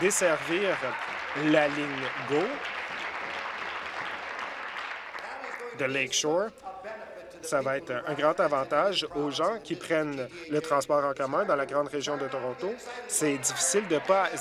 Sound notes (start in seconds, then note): 3.4 applause